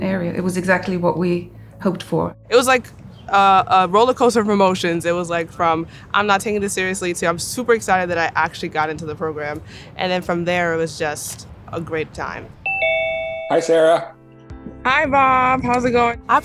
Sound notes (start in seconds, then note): 12.6 Zoom bell sound